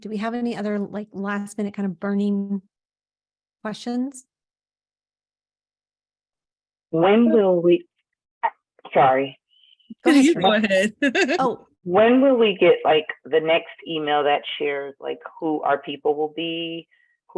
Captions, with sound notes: Okay, do we have any other like last minute kind of burning questions? When will we, sorry. No, you go ahead. (chuckles) Oh, when will we get like the next email that shares like who our people will be,